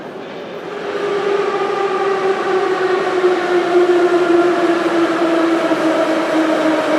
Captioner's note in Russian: прибытие поезда на станцию